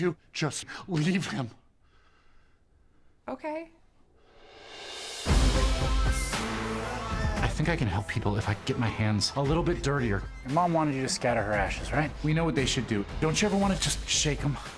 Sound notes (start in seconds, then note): 1.7 breathing heavily